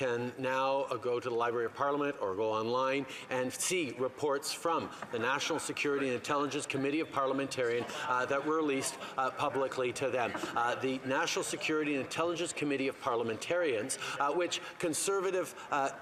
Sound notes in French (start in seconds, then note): 1.9 voix de l'interprète